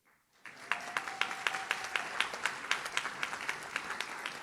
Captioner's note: audience claps